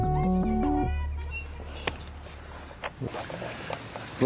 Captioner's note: lively chatter; fabric rustles